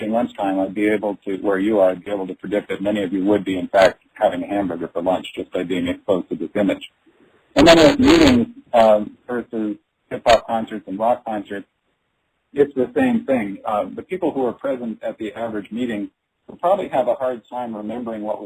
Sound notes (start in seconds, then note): 10.1 audio static